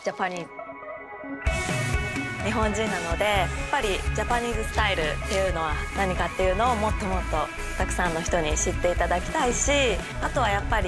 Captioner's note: speaking japanese